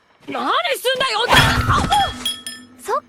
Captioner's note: metal pole swings